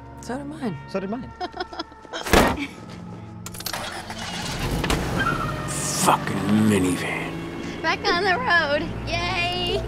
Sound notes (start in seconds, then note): 1.4 madison chuckles